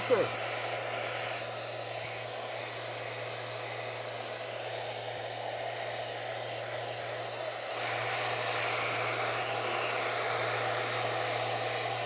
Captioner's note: sanding